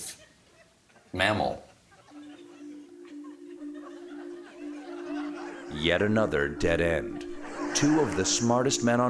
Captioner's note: laughter